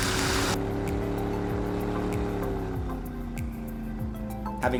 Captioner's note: boat engine revving